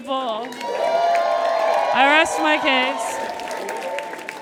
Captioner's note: audience cheers and applauds